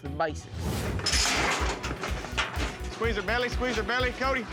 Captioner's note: chute clanking